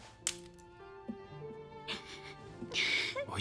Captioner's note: sobbing